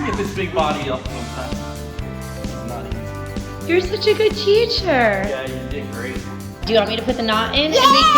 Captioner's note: cheers in excitement